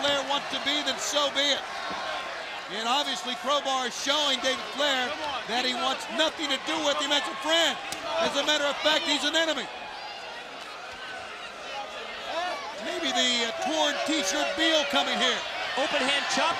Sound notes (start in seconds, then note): 11.0 crowd chatter